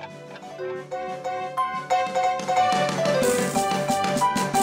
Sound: ticking Stops

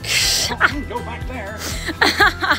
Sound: laughs

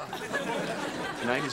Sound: audience laughing

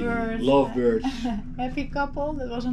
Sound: giggles

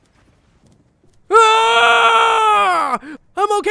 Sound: yells

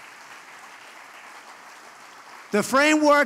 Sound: applause

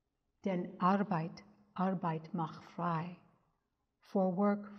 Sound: speaks in German

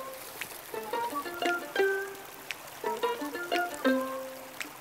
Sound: sound of waterfall

